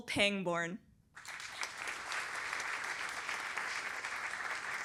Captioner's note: applause